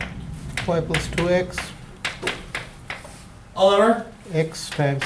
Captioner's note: voiceover; voiceover